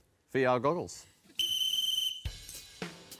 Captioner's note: blows whistle